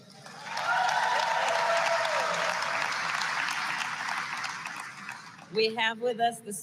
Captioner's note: applause